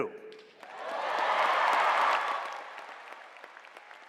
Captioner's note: applause